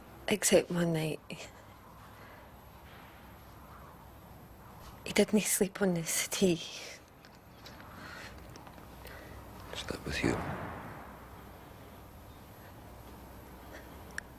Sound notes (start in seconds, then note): none